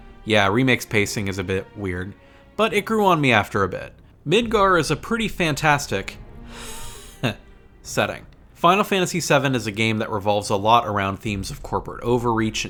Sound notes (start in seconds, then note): 6.8 heh